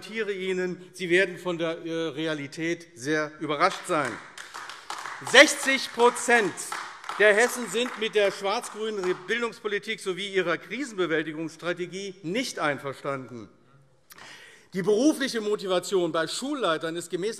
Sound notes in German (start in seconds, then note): 3.6 Beifall AfD